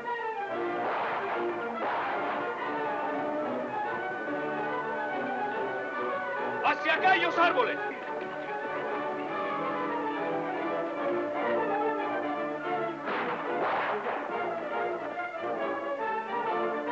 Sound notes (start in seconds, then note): 10.1 dramatic music; 13.0 guns blasting